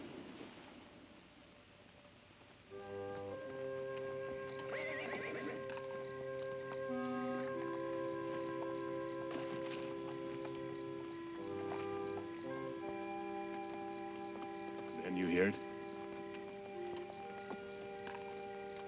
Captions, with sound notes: (gentle music) (horse whinnies) (gentle music) - Can you hear it? (tense music)